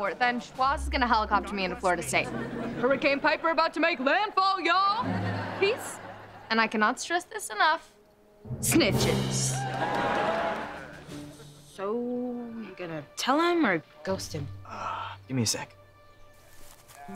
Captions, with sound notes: then Schwoz is gonna helicopter me in to Florida State. Hurricane Piper about to make landfall, y'all! Peace... and I cannot stress this enough... Snitches! [cheering] - So... you gonna tell him or ghost him? - Er... gimme a sec.